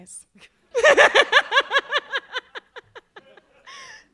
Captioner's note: laughs